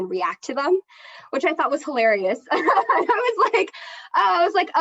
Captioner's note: laughs